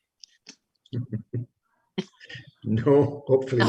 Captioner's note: giggles